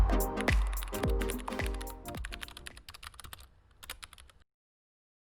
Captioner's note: keyboard clicking